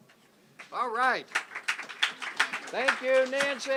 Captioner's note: applause